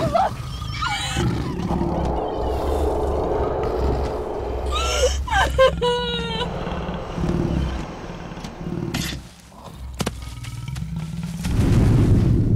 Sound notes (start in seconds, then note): 5.0 Jessica Crying